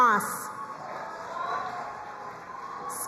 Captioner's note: crowd cheering and applauding